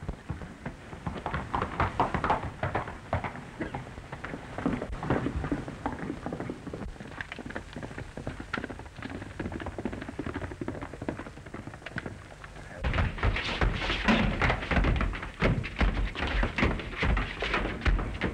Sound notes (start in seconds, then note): 12.8 fighting sounds